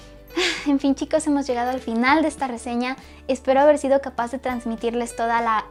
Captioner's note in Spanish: Suspiro